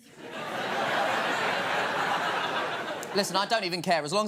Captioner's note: laughter